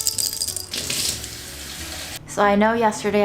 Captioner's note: seeds rattling; water rushing